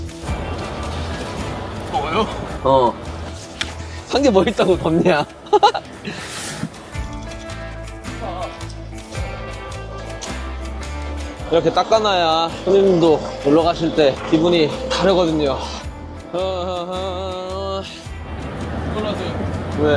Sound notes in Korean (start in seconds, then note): 5.4 웃음